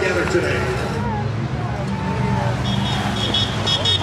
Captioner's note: horns honking; cheers and applause